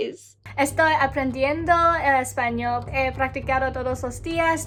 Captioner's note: speaking in Spanish